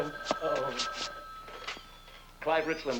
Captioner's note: telephone rings